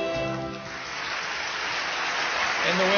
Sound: applause on video

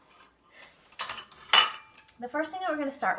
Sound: bowls clatter

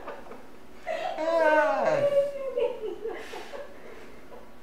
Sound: laughter

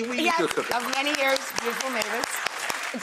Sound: audience applauding

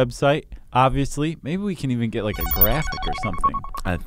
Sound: electronic bleeping

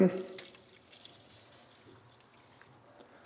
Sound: splashing

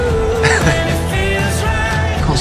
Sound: laughing

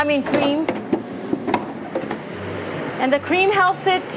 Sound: utensils shuffling

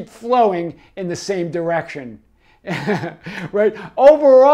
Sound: chuckles

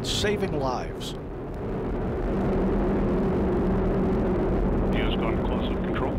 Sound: thundering roar of the ascending rocket

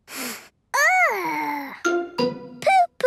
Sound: sniffs

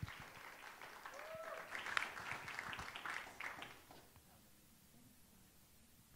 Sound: audience cheering and applauding

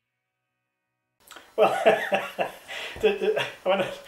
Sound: chuckles

